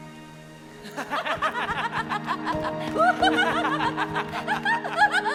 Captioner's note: Peter and Elisabeth laughing